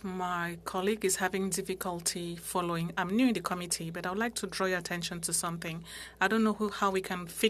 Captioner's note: speaking French